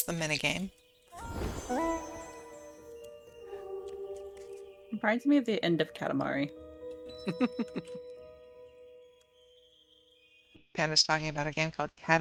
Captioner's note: laughter